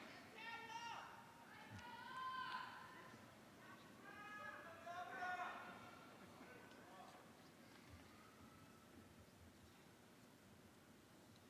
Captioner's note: cheering